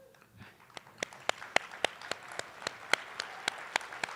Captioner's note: attendees applauding